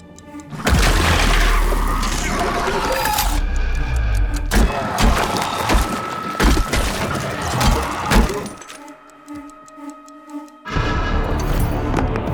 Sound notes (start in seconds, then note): 0.4 creature roaring; 4.5 shots thudding